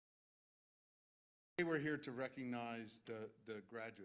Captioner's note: none